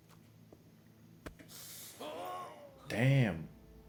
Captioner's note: winces and screams